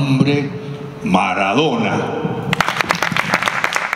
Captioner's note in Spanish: Aplausos del público